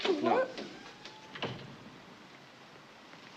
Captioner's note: door closes